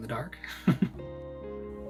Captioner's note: laughs